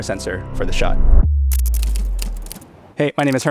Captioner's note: typewriter clacking; transition glitching